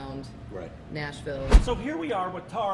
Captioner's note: graphics whooshing